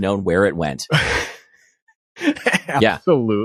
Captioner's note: laughs